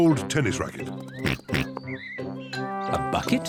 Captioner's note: oinks